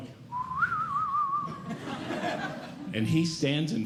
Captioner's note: whistling